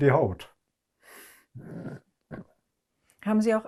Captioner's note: clears throat